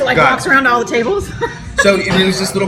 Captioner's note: laughs